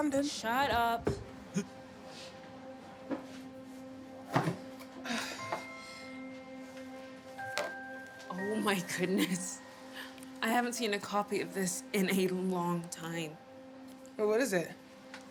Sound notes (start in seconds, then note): 1.6 Regina laughs; 4.3 box thudding